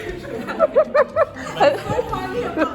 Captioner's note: laughing